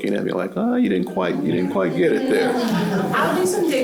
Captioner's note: laughter